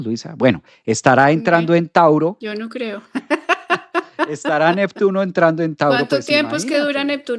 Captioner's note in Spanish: risas